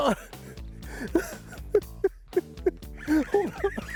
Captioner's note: chuckling